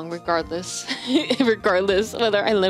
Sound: chuckles

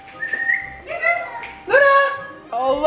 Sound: whistling

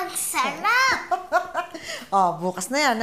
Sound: grandma laughs

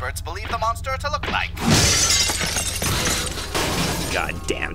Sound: sounds of breaking

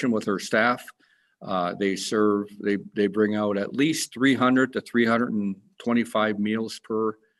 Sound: none

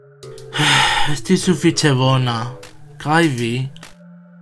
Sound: Suspiras

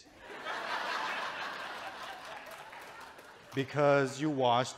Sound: audience chuckles

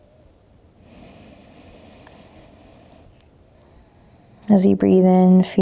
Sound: inhaling deeply

